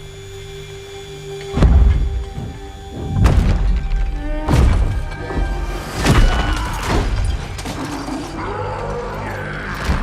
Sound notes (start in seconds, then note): 3.0 thunderous pounding; 6.2 man screams; 8.1 roaring